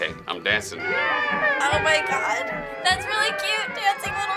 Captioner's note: creatures cheering